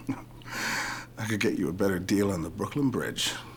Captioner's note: chuckling